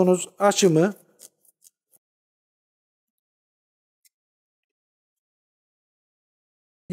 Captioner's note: the rattling noises of the knife while sharpening and cutting